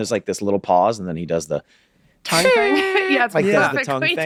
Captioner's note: Glenn squeaks